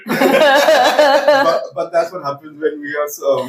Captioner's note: laughs